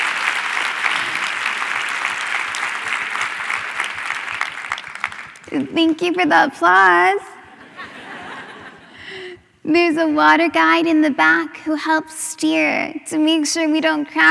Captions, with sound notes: WHACK BACK. [ APPLAUSE ] THANK YOU FOR THE APPLAUSE